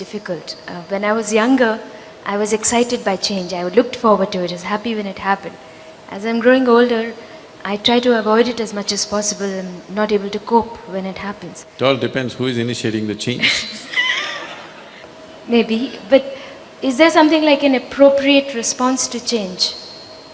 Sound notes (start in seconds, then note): 13.4 laughter